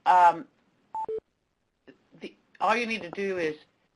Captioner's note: beeping